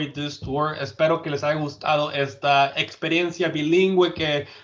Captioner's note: speaking in Spanish